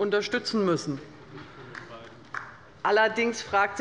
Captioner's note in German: Beifall der Abg